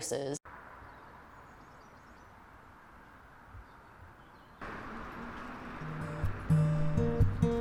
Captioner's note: Traffic